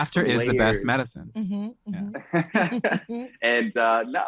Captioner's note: laughs